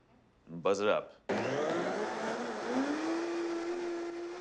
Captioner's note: whirring